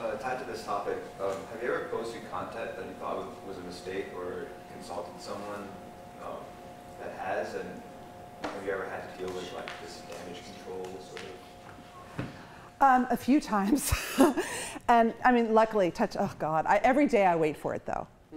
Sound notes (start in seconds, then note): 13.8 chuckles